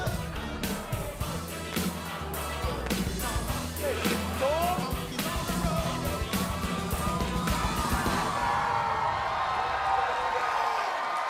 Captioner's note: crowd cheering